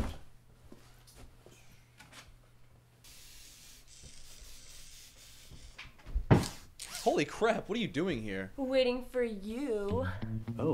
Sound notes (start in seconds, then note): 3.0 spraying; 6.3 mechanical whirring